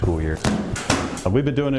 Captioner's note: books hitting together